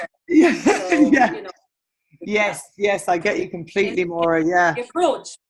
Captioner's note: laughs